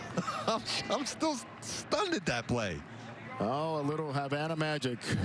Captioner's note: laughs